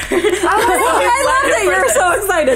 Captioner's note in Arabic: همهمة متحمسة